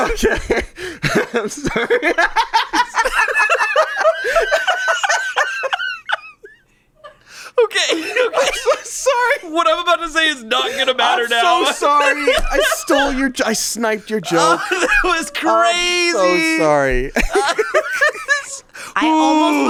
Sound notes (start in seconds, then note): 0.0 laughs; 3.2 laugh; 17.6 laughs